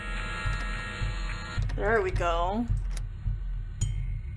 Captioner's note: lock Clicks